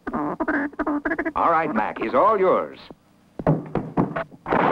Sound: gunshots

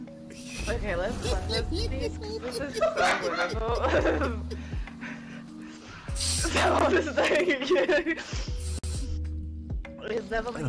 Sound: laughter; laughs in background

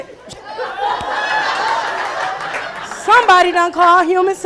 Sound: laughing

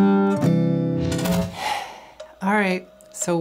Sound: sigh

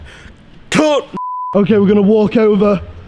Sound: beep

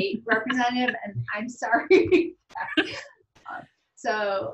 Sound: laughs

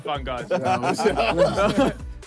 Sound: all laughing

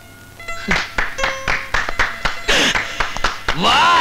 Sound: applauding; gasps

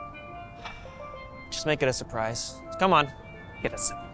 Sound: sighs

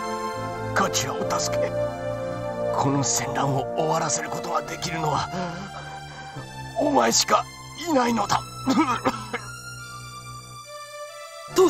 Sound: cough

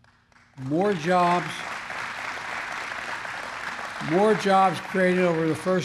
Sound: applause

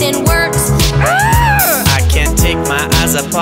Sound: girl groans

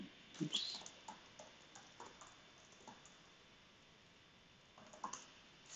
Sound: computer keyboard clicking

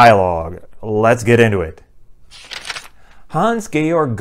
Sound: page turning

